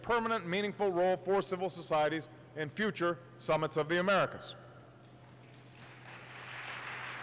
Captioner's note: applause